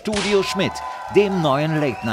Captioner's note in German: Jubel